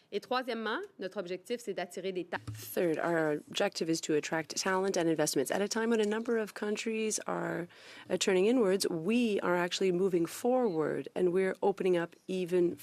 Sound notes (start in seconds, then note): 5.6 speaking French